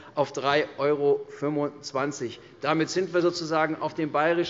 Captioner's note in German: none